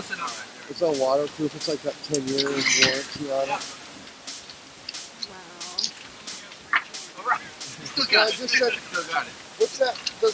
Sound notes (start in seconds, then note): 2.2 people speaking in background